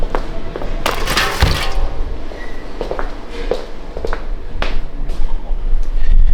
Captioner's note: clicking